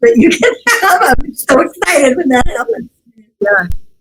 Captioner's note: laughs